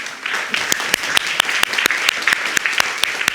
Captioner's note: audience clapping